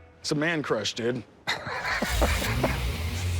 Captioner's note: laughs